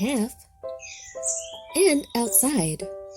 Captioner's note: birds chirping